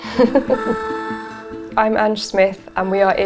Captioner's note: chuckling